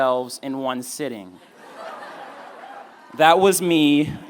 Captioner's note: laughing